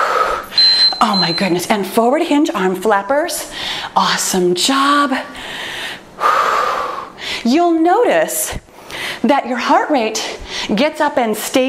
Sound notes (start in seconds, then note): 0.5 timer beeps; 6.2 breathes out heavily